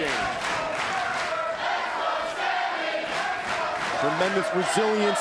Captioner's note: crowd cheering